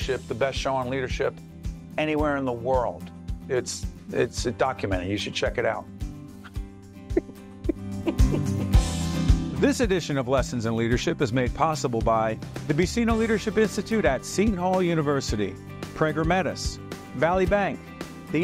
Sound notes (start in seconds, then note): 7.1 laughing